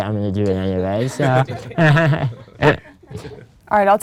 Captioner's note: laughter